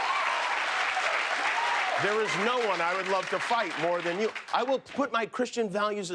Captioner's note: cheers and applause